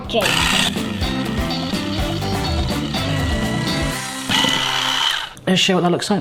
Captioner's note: upbeat music; mixer whirring